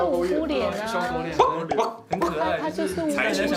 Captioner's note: woof